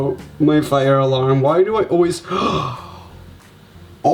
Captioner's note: gasps